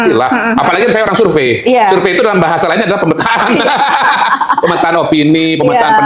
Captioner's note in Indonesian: tertawa